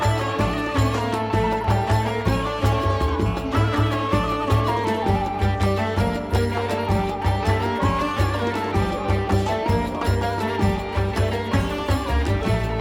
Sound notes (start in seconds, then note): 0.0 applause